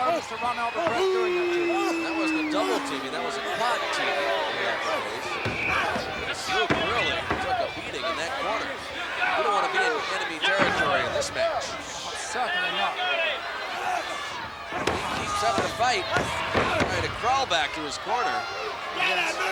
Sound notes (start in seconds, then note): 13.4 wrestlers grunting; 14.7 body thudding